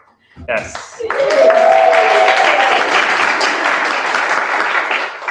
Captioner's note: applause